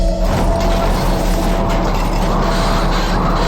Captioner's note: wind howling